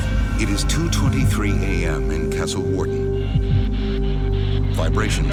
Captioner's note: voiceover